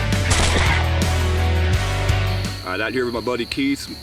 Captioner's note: guns roaring